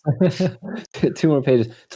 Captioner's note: laughter